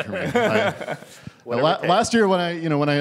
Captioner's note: laughter